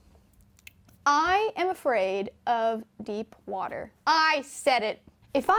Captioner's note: regular voice